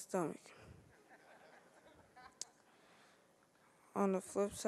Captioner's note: audience laughing